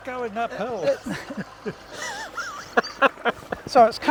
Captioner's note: laughing